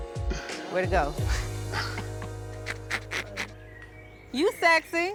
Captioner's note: laughter